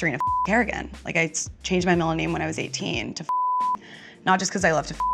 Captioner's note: beep; beep